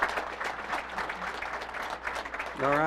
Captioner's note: applause